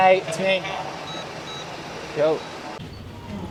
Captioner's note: telecom beeps